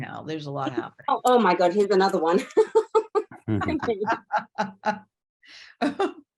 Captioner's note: laugh